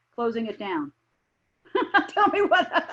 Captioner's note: laughing